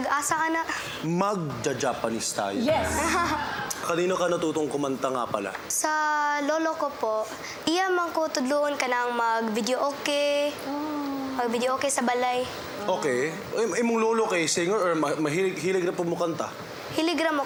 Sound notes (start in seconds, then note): 1.6 in Tagalog; 2.7 chuckles; 4.4 in Tagalog; 8.1 in Bisaya